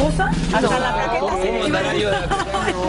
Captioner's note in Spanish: risas